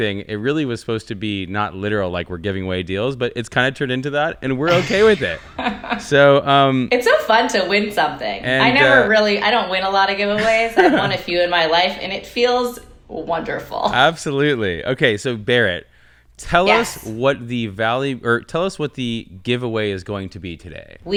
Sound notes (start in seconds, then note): 4.7 laughing